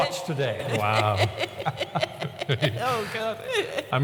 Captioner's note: laughs